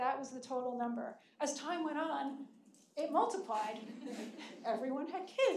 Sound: audience laughing

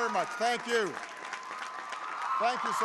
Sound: applause

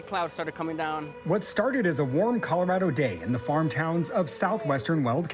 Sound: sirens

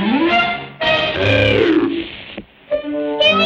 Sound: croaking

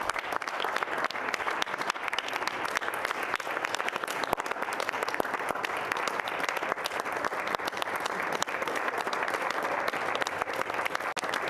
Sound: applause

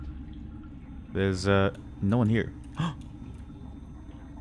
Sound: gasp

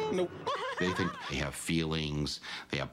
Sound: woman laughs

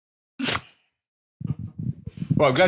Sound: laughs softly

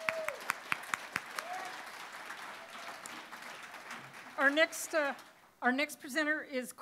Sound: applause

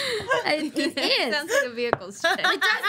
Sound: laughing

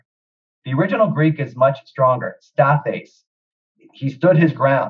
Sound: speaks Greek

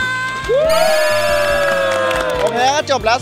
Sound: applauding; cheering

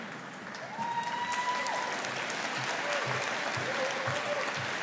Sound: audience applauding

